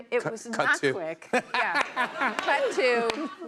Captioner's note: laughter